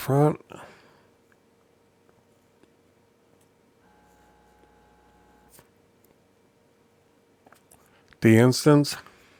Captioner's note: silence